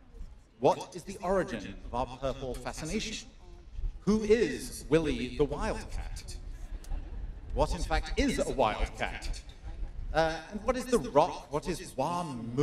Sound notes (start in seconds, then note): 5.5 laughter; 9.7 more laughter